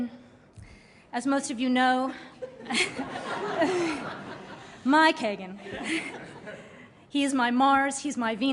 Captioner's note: laughter